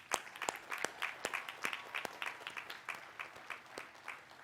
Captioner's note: applause